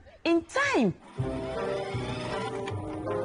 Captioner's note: videotape rewinding sound